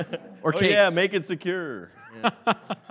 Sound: laughing; laughs

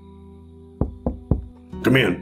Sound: knocking

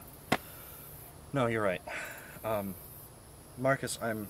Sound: sigh

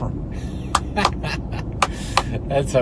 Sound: claps hands

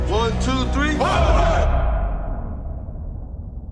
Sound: everybody in unison

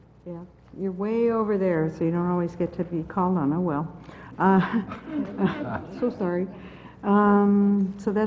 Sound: laugh

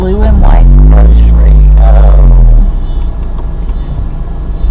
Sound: car revving

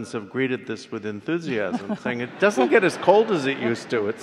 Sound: laughs

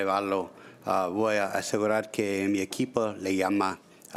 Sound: speaking Spanish

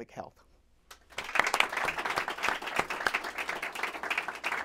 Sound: clapping

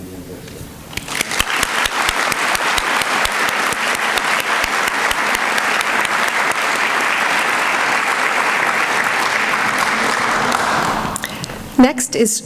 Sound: applause

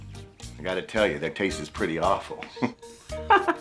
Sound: laughs

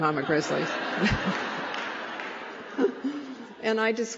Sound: laughter

